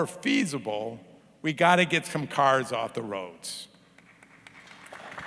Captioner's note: audience clapping